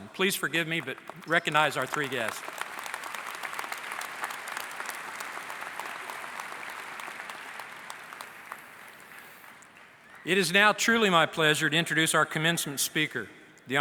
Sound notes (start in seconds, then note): 2.9 applause